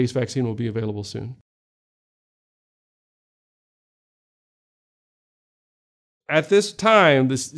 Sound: silence

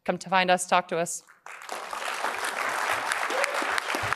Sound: applause

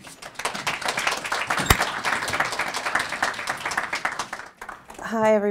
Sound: applause

